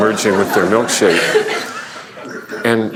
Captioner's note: laughter